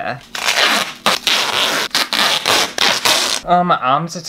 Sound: tape Peeling

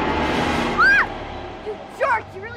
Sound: girl screaming

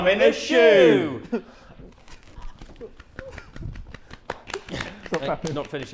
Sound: Ethan and Joshua laughing

